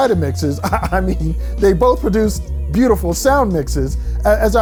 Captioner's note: chuckles